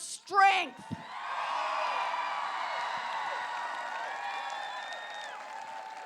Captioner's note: applause